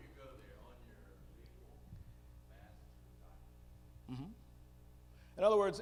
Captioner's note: male audience member speaking